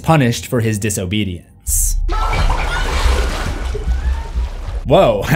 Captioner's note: screaming in bath